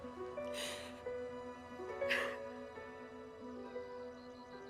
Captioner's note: Susan crying